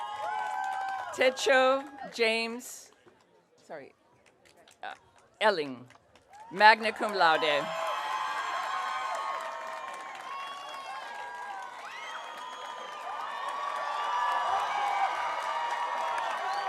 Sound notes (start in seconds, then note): 7.9 audience cheering